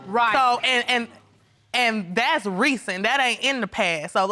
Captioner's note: stammers